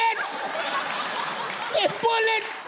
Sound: audience laughs

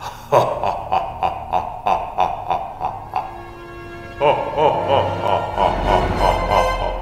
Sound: deep Laughter

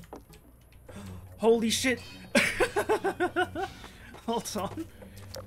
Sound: laughing

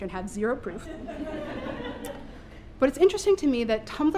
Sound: laughter

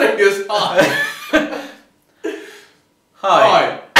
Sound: laughing

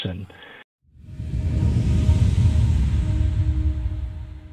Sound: air whooshes

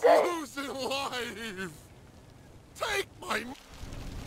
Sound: crying man

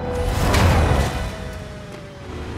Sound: clank

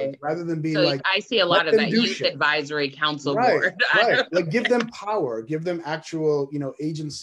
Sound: laughs

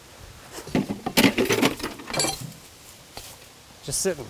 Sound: metal tools clanking

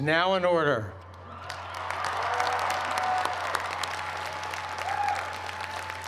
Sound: cheers and applause

